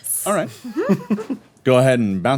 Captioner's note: chuckles